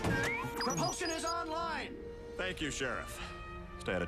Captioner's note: beeping